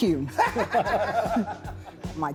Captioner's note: group laughs